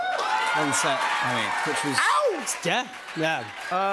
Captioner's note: cheers and applause